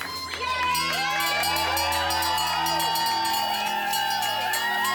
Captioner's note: bell ringing